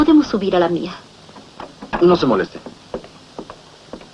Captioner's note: dings bell